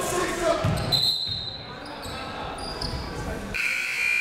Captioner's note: whistle; buzzer